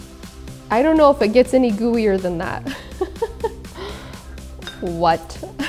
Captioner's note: laughs; laughing